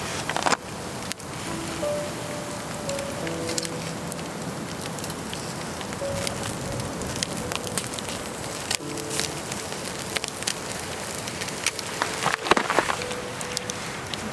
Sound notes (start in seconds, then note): 5.4 crackling fire